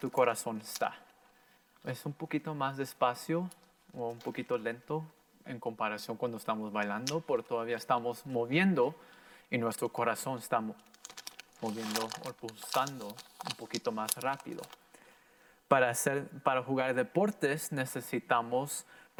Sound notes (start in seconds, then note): 10.8 plastic crackling; 15.8 in foreign language